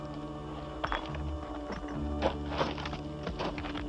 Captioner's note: footsteps